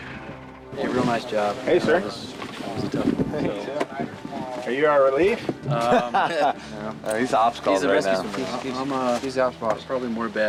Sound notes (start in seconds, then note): 0.0 muffled conversation; 5.7 laughing